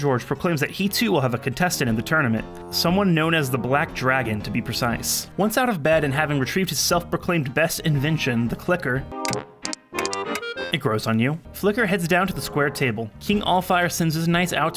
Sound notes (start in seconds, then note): 9.2 faint clicking